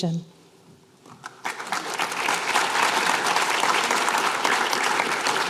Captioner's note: applause